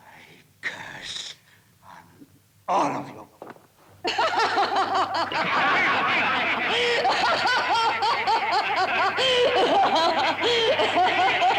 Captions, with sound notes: I curse on all of you! (Cleo laughs) (murderers laughing)